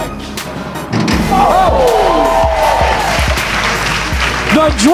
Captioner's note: spectators applauding